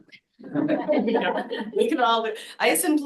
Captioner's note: laughter